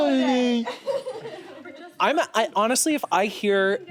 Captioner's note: laughs